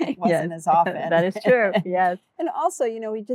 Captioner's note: laughing